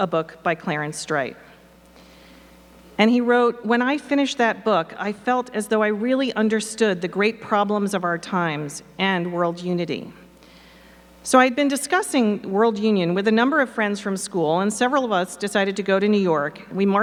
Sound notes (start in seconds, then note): none